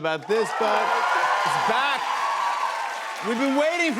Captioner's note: cheers and applause